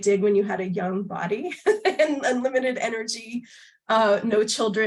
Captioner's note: laughter